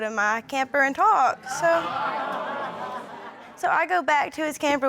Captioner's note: audience exclaiming